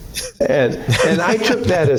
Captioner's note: laughter